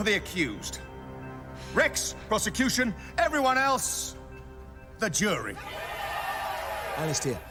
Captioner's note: crowd cheering